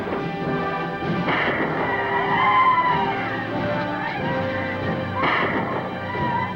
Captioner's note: guns fire; gun fires; Indians howl; gun fires